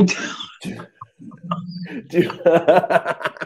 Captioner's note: laughs